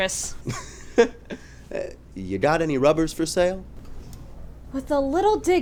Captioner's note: he laughs